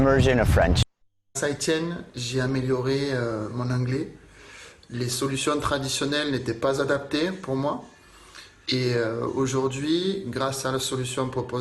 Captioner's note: French